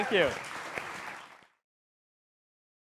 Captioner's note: applause